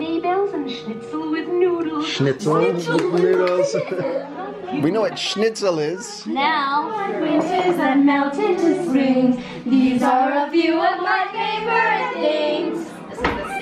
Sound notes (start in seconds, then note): 2.9 child claps; 3.4 chuckles